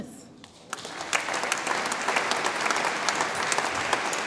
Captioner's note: audience applauds